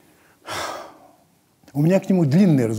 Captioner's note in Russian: Познер резко выдыхает